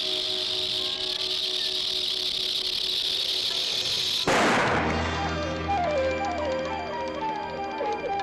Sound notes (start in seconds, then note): 4.2 loud gunshot; 7.0 ominous whimsical music